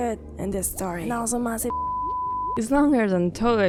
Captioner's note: long beep